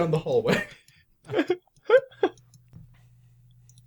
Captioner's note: scattered laughter